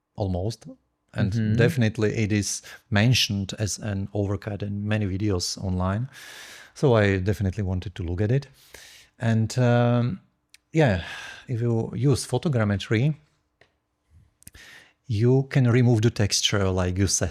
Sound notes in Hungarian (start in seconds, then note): none